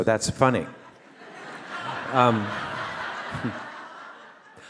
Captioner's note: audience laugh